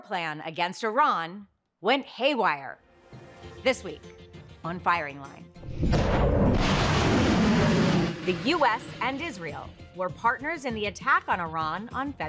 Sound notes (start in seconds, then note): 5.6 rocket launches